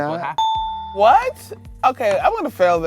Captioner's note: dinging